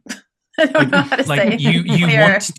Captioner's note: laughs